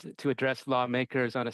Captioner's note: speaking French